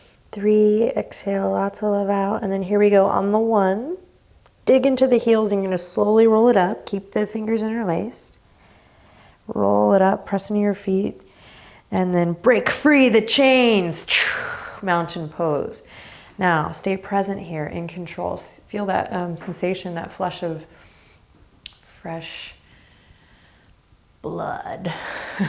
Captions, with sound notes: three, exhale lots of love out, and then here we go on the one, dig into the heels and you're gonna slowly roll it up, keep the fingers interlaced. Roll it up, press into your feet, and then break free the chains (exaggerating exhale) Mountain Pose. Now, stay present here, in control. Feel that sensation, that flush of fresh blood.